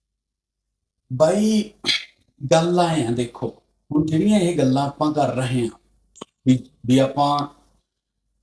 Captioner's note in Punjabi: ਗਲਾ ਸਾਫ਼ ਕਰਨ ਦੀ ਅਵਾਜ਼